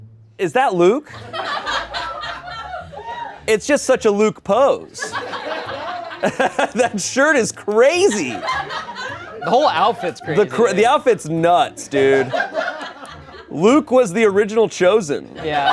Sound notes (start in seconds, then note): 1.1 everyone laughs; 4.9 laughs